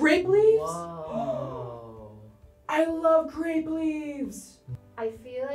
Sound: gasps

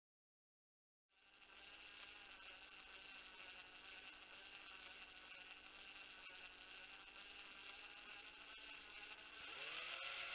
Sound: sound of drill

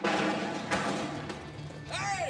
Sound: clattering

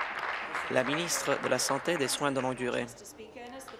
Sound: applause

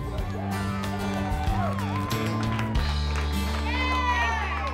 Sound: cheering and applause

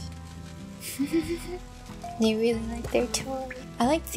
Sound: giggle

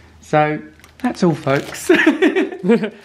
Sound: laughs

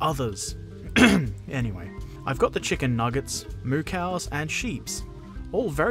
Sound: clears throat

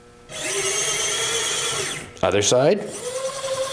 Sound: motor whirring

